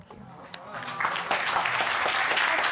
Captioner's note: audience applauding